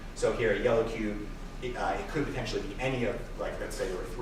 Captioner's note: none